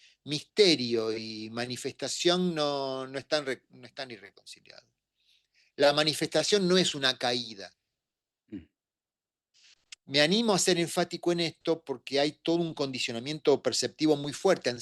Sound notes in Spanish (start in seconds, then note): 8.5 carraspeo